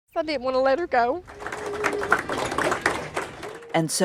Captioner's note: staff applauding